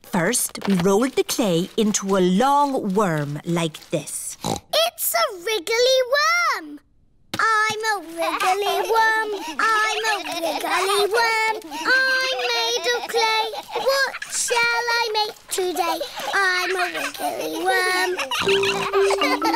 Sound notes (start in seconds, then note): 4.4 snorts; 10.8 all laughing; 18.4 snorts